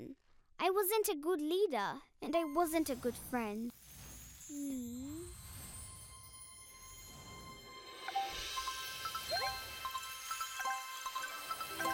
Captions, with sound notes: I wasn't a good leader and I wasn't a good friend. Hmm? (mysterious music) (chiming)